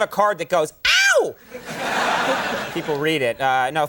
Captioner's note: audience laughing